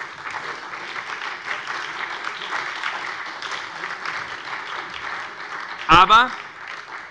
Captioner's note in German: Beifall bei der SPD und der LINKEN